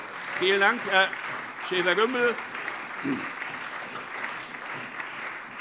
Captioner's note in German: Beifall SPD, AfD, Freie Demokraten und DIE LINKE